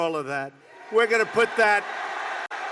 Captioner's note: applause